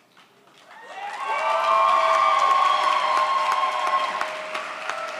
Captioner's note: audience cheers